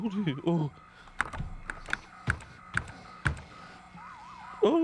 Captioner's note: typing